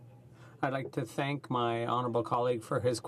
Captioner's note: speaking French